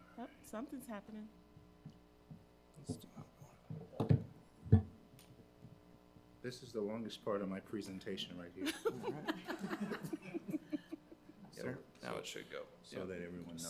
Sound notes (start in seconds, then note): 2.8 faintly speaking; 8.6 people laughing